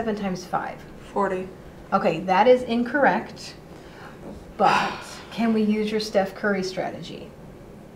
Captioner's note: deep breath